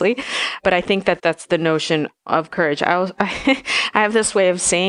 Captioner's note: laughs